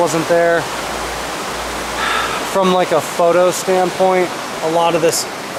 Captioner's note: sighs